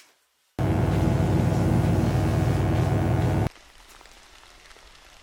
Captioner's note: electric buzzing; rain falling